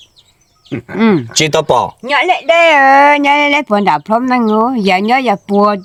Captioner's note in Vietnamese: hắng giọng